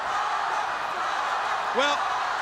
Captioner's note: crowd chanting